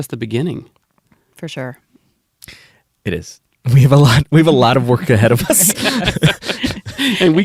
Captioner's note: laughter